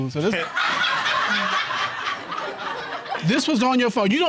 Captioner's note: audience laughing